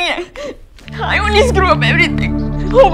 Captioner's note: Crying